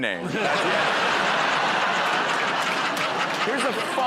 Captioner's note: laughter